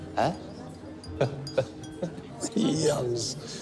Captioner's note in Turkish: Metin gülüyor